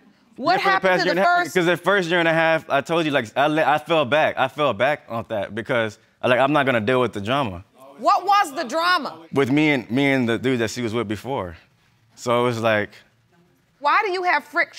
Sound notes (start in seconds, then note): none